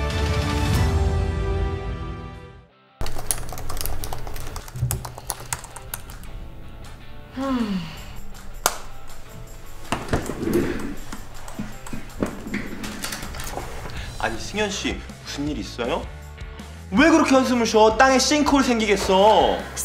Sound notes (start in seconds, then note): 7.1 sighs